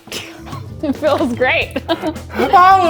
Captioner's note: laughs